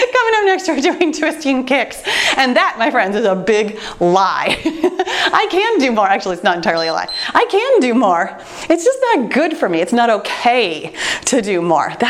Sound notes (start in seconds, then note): 4.4 chuckling; 6.6 timer beeps